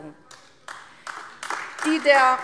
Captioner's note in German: Beifall AfD